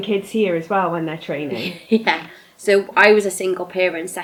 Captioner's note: laughs